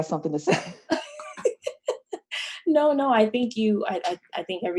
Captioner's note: laughs